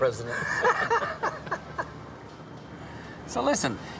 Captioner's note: all laughing